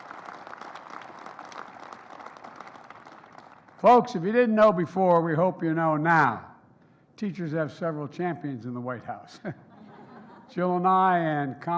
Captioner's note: applause